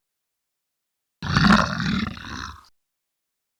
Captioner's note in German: Löwengebrüll